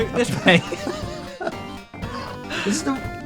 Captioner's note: chuckles